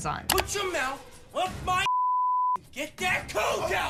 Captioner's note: beep